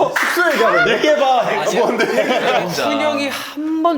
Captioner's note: the person involved cracks up